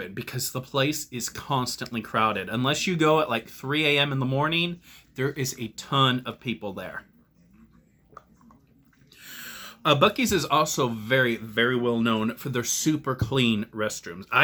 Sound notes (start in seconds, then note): 7.4 slurp